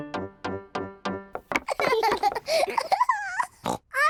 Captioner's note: both laughing; oinks